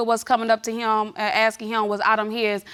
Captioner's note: none